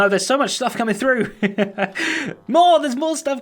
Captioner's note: laughs